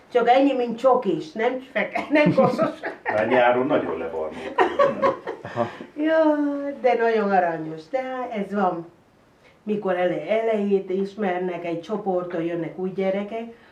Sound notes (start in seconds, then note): 4.3 chuckles